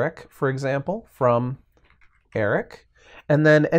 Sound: types on keyboard

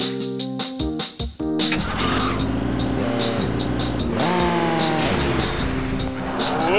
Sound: car sounds

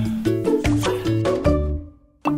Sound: smooch

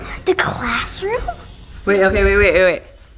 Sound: gasps

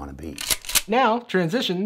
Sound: cocking gun

